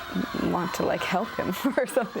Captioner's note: laughing